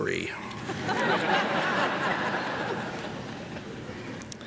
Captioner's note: audience laughs